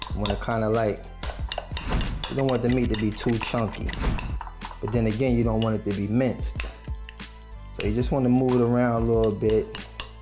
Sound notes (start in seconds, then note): 3.8 clock ticks